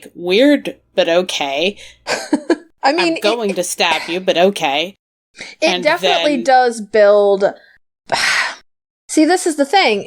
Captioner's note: ugh